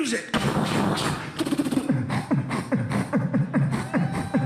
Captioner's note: beatboxing techno; light cheering